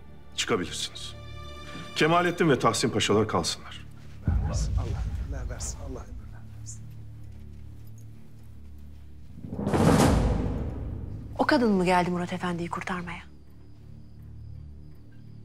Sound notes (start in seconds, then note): 9.4 cane tapping sound